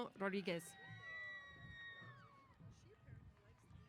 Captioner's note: cheers